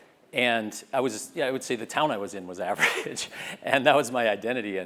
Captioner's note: laugh